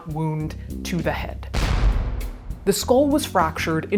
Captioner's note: gun shooting